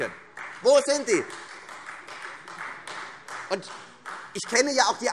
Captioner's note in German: Beifall Freie Demokraten